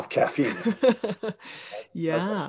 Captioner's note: laughing